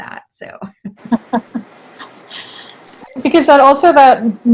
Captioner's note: both chuckle